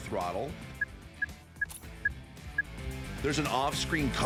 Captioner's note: game beeping